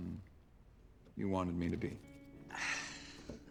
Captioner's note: sighs with satisfaction